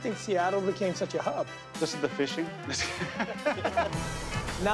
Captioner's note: laughter